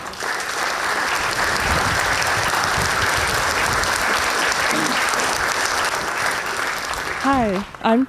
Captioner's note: audience applause